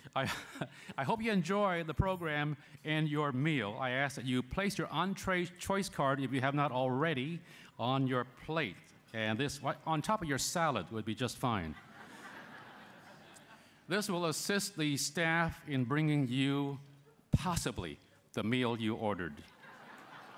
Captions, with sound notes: I hope you enjoy the program and your meal. I ask that you place your entree choice card, if you have not already, on your plate. And this -- on top of your salad would be just fine [laughter]. This will assist the staff in bringing you, possibly, the meal you ordered [laughter].